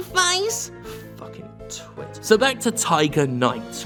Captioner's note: mutters